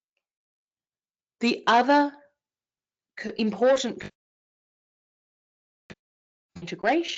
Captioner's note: audio cuts out